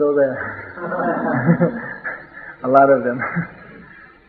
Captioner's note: laughter